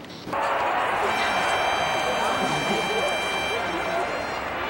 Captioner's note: crowd cheering